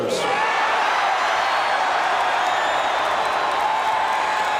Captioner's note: audience cheering